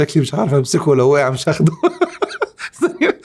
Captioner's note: laughs!